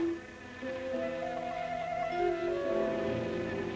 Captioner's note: buzzing